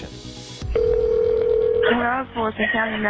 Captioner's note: phone ringing